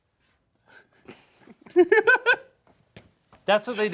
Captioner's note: laughing